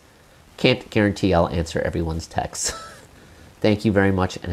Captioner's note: chuckle